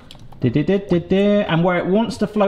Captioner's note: hums a tune